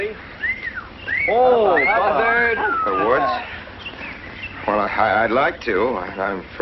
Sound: whistling

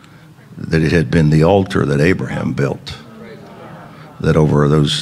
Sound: congregation chattering

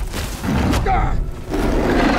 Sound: Master Chief grunting; creature roaring

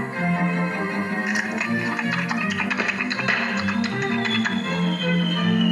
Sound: chomp Chomp Chomp

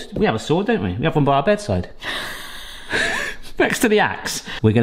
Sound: laughing

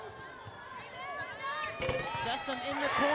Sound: crowd cheering

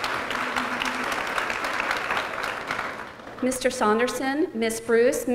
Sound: applause

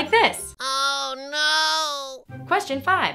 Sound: voiceover

